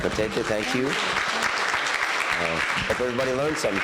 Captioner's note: audience applauding